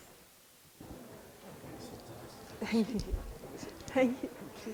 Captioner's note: people chattering